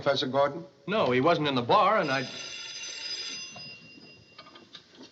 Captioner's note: phone Ringing